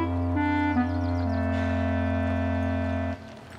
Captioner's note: sighs